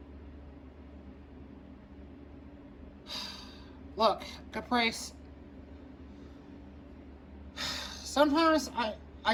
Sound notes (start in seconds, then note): 3.0 sighs